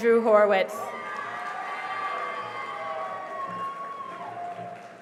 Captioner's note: cheering and applause